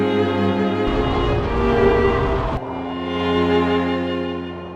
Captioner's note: wind blowing